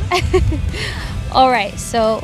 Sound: host laughing

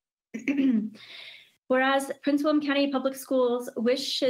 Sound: coughs

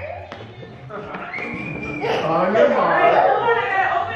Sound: kids yelling

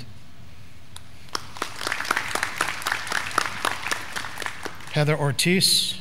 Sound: graduands clapping

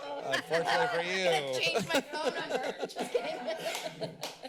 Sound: laughter

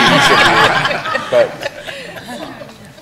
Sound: laughter

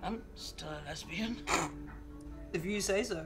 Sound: scoffs

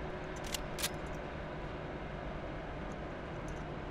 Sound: pistol cocks

